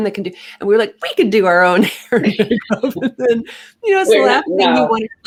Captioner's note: laughs